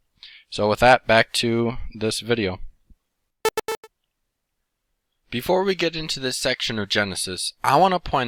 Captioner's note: beeping